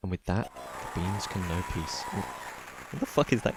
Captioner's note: interrupted by low-quality cheering sound effect